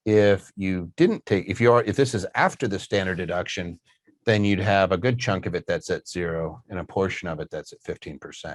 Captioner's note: none